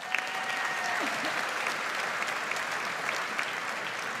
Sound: audience applauds

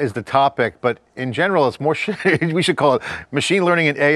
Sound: laughs

